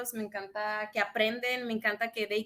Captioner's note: speaks in Spanish